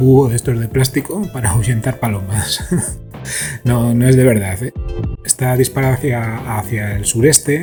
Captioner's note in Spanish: risas